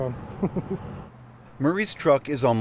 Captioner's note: laughter